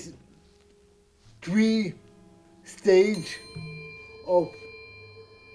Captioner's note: bell chime